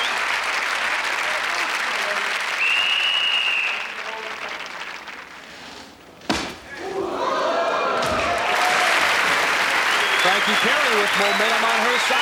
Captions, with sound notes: [whistle blowing] [audience gasping] [applause] Frankie Perry with momentum on her side.